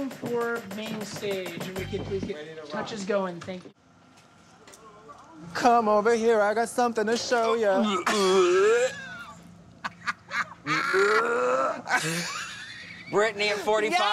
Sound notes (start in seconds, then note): 9.7 laughs; 9.8 gags; 12.1 heaves